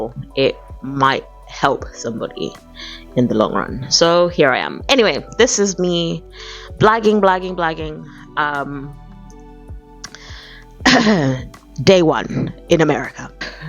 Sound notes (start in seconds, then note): 6.2 cough